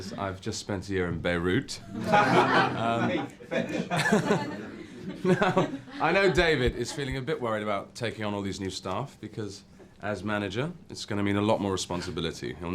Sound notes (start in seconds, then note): 1.9 everyone laughs